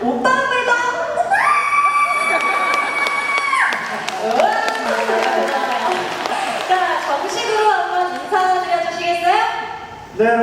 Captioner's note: applause